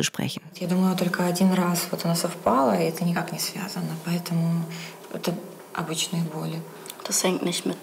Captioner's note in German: Klientin spricht Russisch